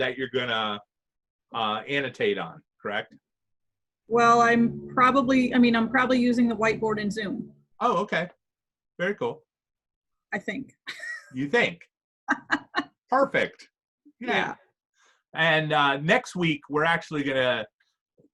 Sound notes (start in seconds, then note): 9.0 laughs